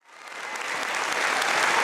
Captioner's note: applause